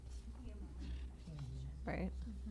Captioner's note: indistinct chatter